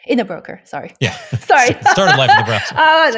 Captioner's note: laughs